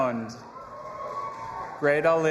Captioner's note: audience applauding and cheering